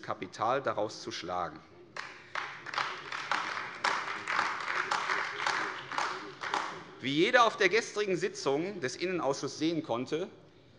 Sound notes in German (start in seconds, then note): 1.9 Beifall AfD